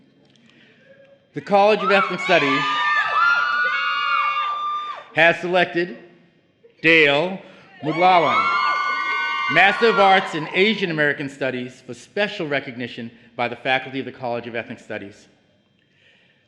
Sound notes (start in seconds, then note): 4.5 cheering